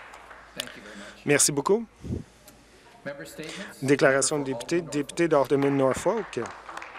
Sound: applause

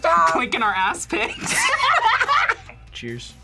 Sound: both laugh

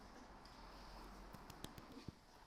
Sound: clap, clap

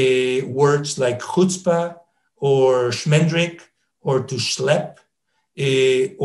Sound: speaking in foreign language

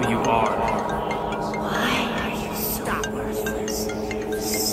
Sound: murmurs

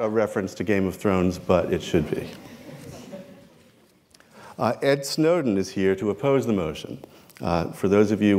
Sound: laughter

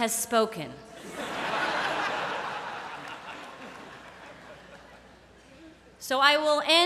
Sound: laughter

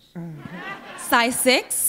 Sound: laughter

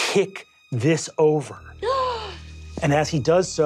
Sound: gasps

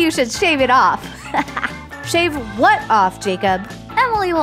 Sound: chuckle

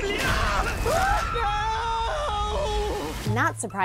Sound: screams

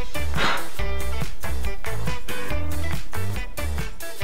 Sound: air blowing

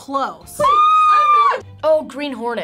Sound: screams

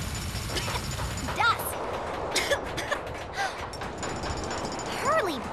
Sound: jackhammering

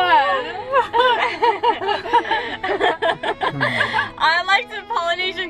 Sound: laughing

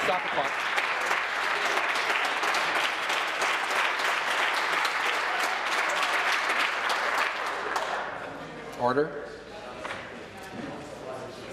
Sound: applause

